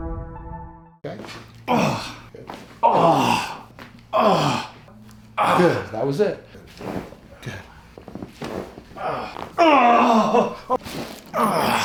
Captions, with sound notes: (man grunting) - Good, that was it. Good. (man grunting)